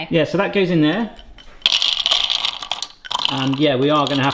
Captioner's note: nuts clattering